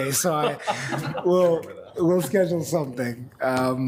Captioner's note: group laughs